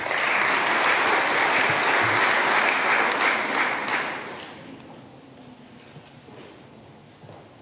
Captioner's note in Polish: oklaski